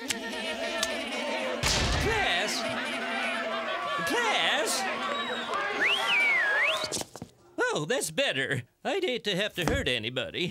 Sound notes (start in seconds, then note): 0.2 <i>class laughs</i>; 2.1 <i>laughter continues</i>; 4.9 <i>whistles</i>; 6.3 <i>laughter stops</i>